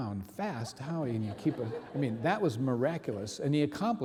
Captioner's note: audience laughing